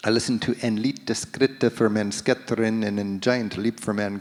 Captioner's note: speaking in foreign language